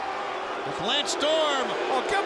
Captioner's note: crowd boos